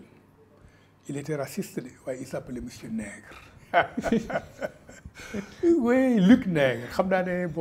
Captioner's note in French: Rires